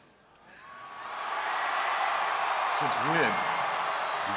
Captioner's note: crowd cheering